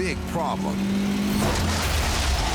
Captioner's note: SUV hums loudly